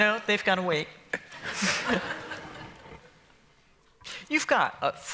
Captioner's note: laughter